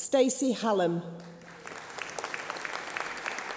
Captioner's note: applause